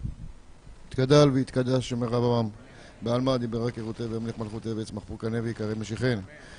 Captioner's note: recites Kaddish